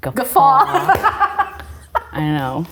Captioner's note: both laughing